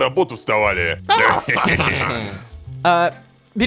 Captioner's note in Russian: Общий смех